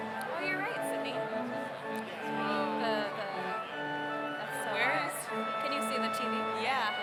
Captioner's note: overlapping chattering